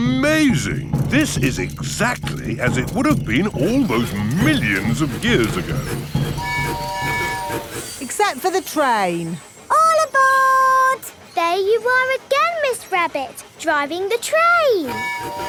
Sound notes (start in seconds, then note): 6.3 train tooting